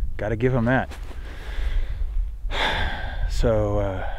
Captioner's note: deep breath